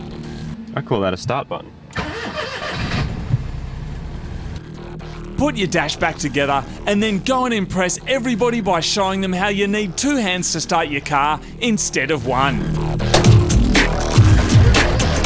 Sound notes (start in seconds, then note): 1.9 engine turns over; 1.9 engine cranks